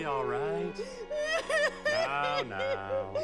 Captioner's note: sobbing